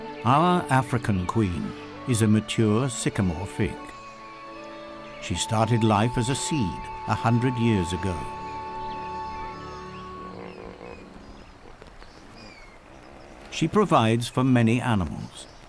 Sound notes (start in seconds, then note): 7.9 animal sounds; 8.2 flute background music